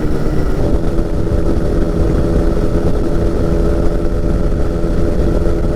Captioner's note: plane engine rumbling